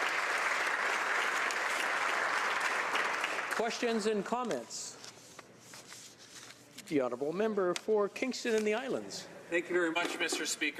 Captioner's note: applause